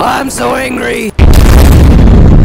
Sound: crash and explosion

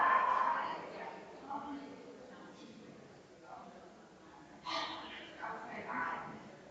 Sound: people chattering distantly continues

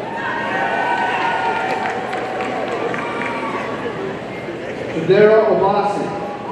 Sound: audience cheering and applauding

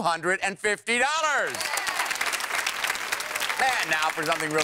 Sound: applause

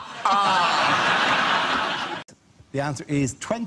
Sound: audience laughs

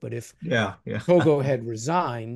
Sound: laugh

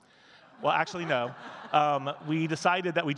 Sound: audience laughing

